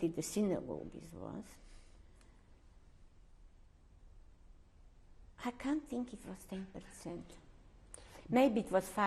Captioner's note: pauses for 3 seconds